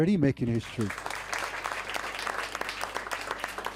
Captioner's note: applause